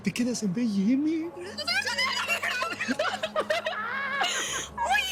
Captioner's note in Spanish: Exclamaciones